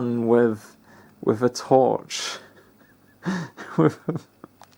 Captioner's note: lols